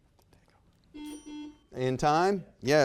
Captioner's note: buzzer beeps